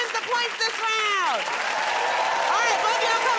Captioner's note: cheering and applause